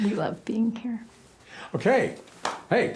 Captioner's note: claps